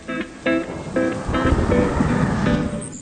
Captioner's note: rain; thunder; birds chirping